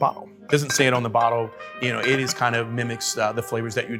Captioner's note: register bell rings; bottles clanging